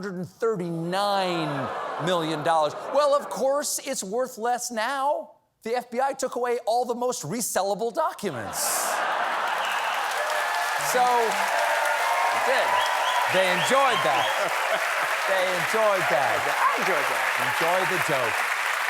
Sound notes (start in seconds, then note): 5.2 laughter; 7.5 applause